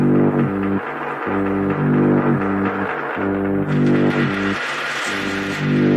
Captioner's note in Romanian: Aplauze